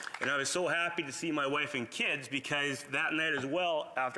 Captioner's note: applause